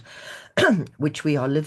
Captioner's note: clears throat